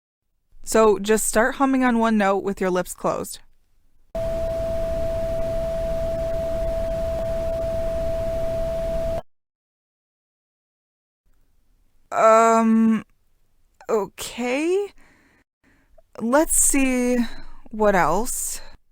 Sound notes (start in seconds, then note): 4.1 electronic hum